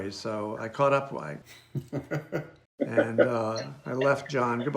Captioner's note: chuckles